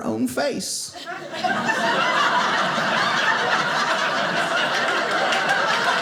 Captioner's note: audience laughing